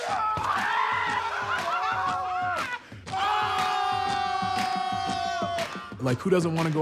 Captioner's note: laugh